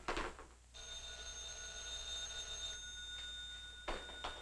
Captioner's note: phone ringing